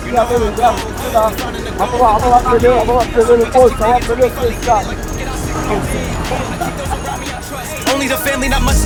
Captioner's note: speaking in foreign language